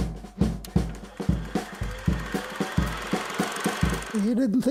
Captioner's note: projector whirring